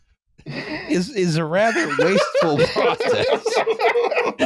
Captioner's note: laughing; laughter